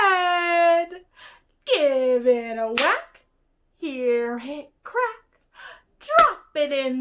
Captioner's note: clap